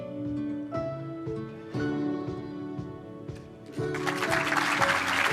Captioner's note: applause